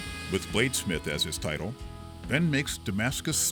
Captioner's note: metal cutting noises